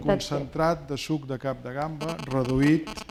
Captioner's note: speaking spanish